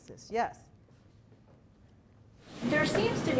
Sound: none

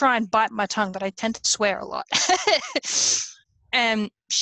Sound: laughs

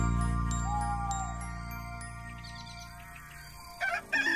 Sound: owl Hoots; rooster Crows

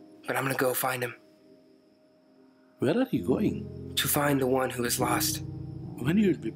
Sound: birds and insects chirping; pensive piano music

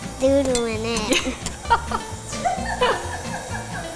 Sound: laughing

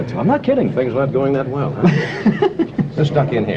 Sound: laughter

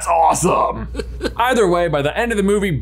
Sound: Emperor Palpatine laughs

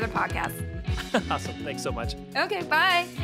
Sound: laughs

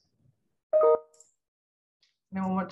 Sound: computer chiming

